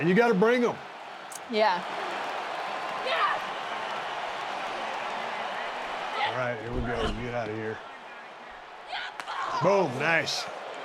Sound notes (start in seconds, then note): 2.7 crowd cheering